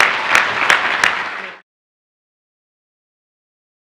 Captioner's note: audience applauds